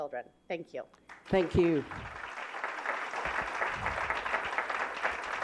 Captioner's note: applause